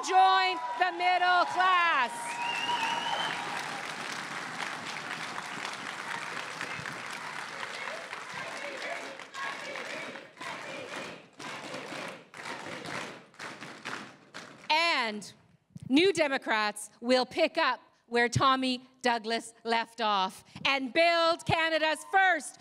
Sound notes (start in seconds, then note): 2.6 crowd cheering and applauding; 9.1 chanting